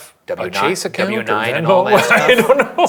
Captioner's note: chuckling